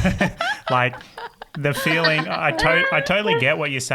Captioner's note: everyone laughing